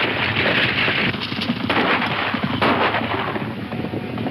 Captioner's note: gunshots